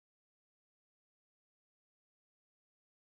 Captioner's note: none